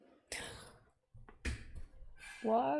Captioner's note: gasp